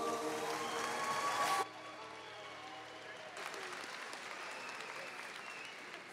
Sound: audience cheering and applauding

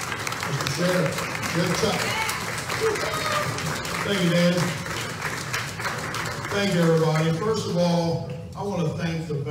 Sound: clapping

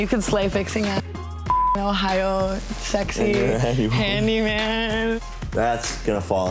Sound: beep

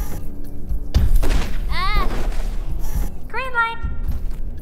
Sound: gunshot

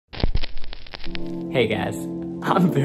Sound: static crackling; mellow music

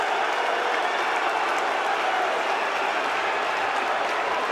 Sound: boos and cheering

